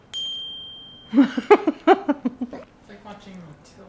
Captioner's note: laughing